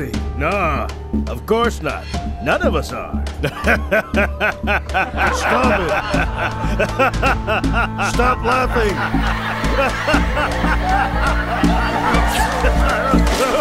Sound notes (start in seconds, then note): 3.4 gray haired man chuckling; 6.3 patients laughing; 9.3 patients laughing